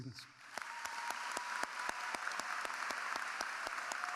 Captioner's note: audience applauding